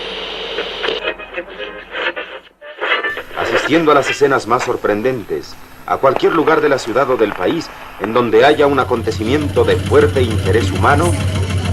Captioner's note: radio news playing